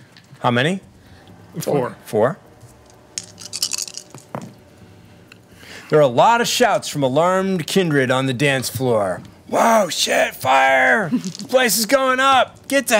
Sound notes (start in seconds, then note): 3.2 dice rattling